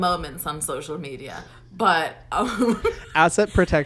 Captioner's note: laughs